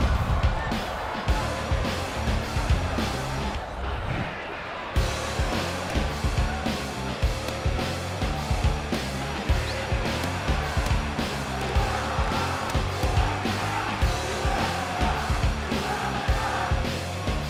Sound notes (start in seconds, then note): 8.6 punches landing; 12.7 chanting